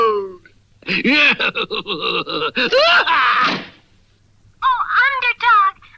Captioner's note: Simon Bar Sinister Laughs & Closes the Door